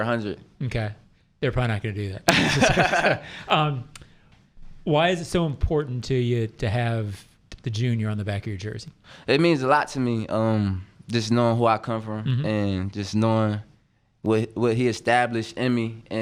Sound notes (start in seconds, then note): 2.3 laughing